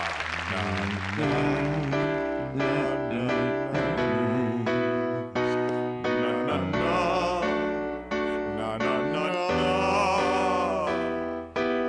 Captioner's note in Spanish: Tocando y tarareando " "